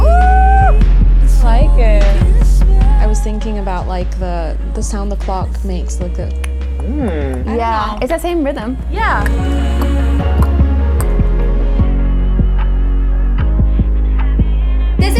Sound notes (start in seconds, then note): 6.2 tick-tocking